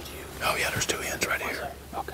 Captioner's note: whispering